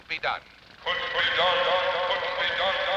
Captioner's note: echoing